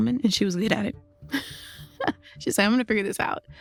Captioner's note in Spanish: risas